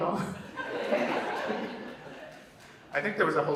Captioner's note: Vanessa and audience laugh